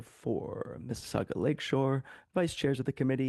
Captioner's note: speaking French